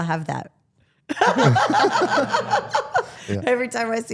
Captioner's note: participants laugh